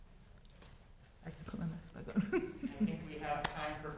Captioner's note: laughs